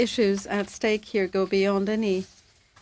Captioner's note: speaking French